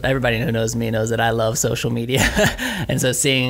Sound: laughs

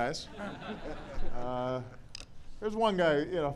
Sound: laughter

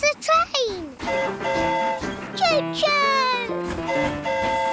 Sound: train horn hooting

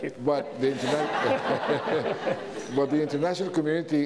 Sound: audience laughs; laughs

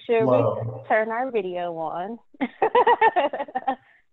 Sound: laughs

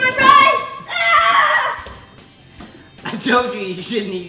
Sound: shouting

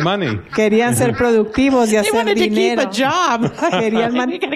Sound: laughter

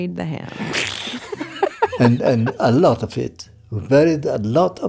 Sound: laughs

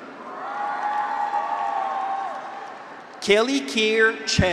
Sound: graduates cheer; audience applauds

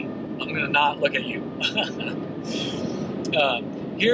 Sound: laughing

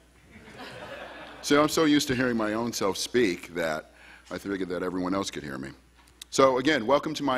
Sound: laughter

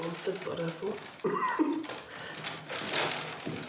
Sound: she laughs

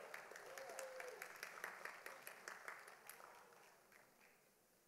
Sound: audience applauding

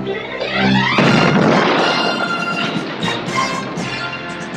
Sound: explosion; military music

